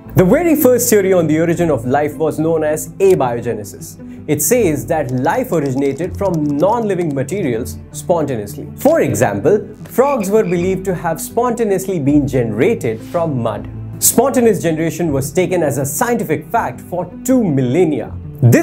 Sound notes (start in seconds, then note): 8.0 in a funny tone